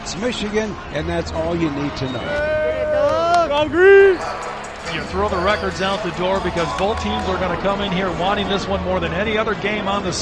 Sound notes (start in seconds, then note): 2.0 fans cheering